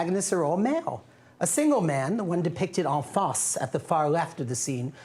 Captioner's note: non-english speech